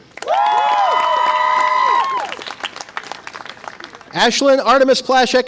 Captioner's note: audience applause and cheer